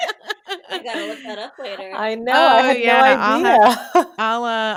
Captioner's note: laughter